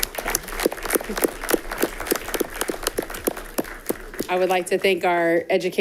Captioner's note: all clapping